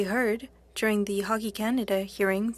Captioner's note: speaking French